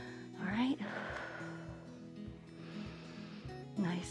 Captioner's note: exhales and inhales